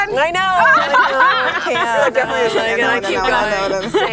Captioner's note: laughing